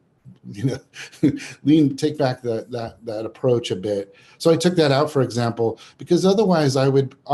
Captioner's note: chuckles